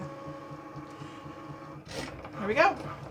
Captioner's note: Cricut whirs